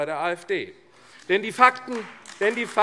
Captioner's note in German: Beifall AfD